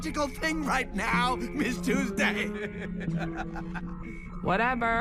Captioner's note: stressed laughter